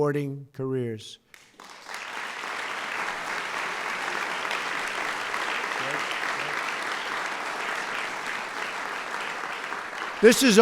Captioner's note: applause